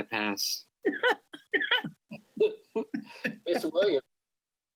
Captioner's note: members laughs